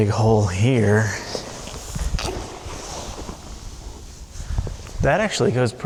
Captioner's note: shuffling